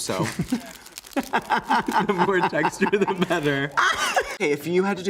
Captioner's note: Crystal laughs